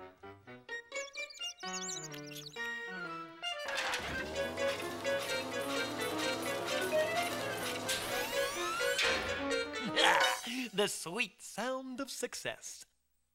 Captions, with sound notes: (MICE SQUEAKING) (WHIRRING) Ah, the sweet sound of success.